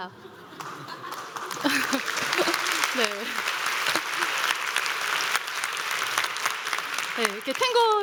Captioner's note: applause